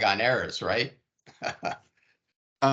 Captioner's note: laughing